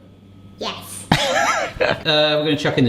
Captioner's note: laughs